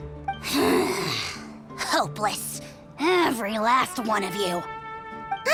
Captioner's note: sigh